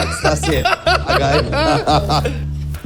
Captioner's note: laughs